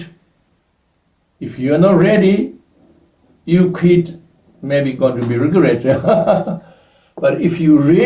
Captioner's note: laughs